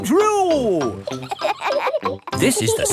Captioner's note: kids laughing